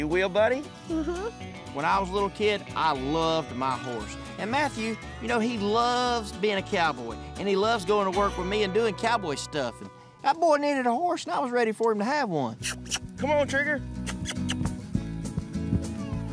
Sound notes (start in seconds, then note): 12.9 calling